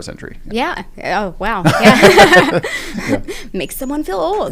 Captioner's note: laugh